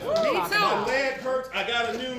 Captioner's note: applause